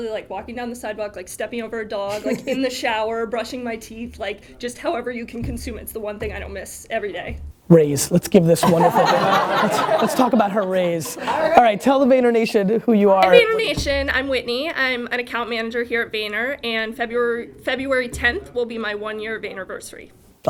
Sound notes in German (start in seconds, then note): 2.1 Gary lacht; 8.4 Lachen